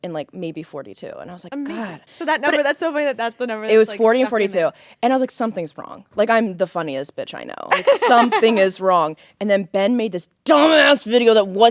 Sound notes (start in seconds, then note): 7.7 Courtney laughing